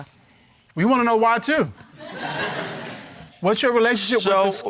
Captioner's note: crowd laughing